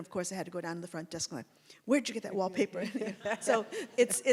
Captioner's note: laughs